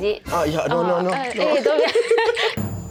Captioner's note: nervous laughters